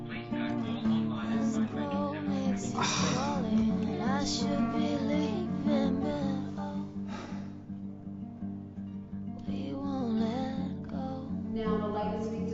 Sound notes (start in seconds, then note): 2.6 sighs; 12.4 voiceover